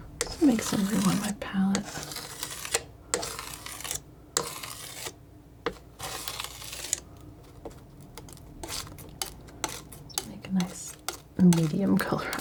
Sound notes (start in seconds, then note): 1.7 scissors snipping